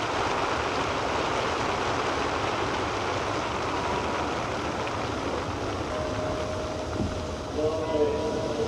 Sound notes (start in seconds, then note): 5.9 bell rings